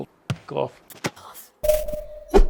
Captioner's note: gnome ping